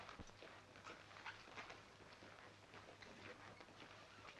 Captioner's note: floor pattering